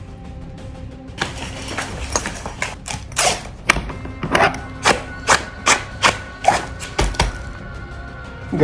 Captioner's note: gear shuffling